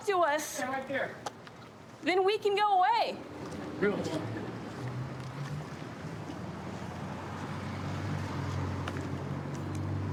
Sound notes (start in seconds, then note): 6.7 vehicles driving